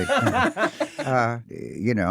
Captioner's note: laughing